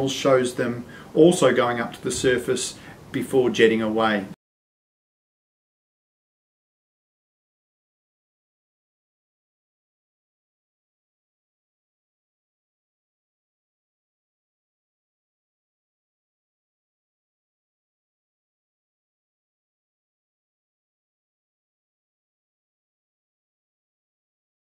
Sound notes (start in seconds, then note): 4.6 silent